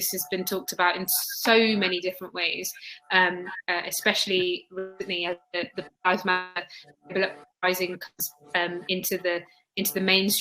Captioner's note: erm